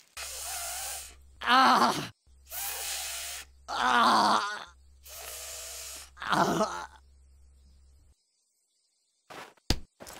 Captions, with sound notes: [Inhales] Ahh! [Inhales] AaaaAah... [Inhales] Aghh...